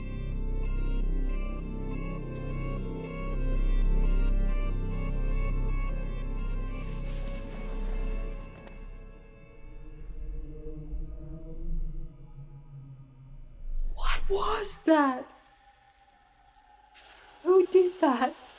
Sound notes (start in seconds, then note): 15.5 lights buzzing